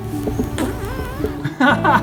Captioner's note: fart